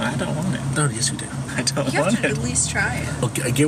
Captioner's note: laughs